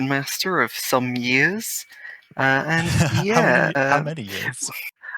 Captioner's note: laughing